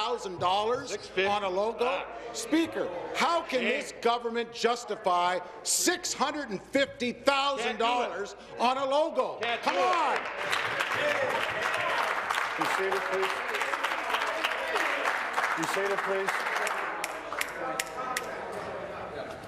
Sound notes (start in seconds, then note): 12.9 applause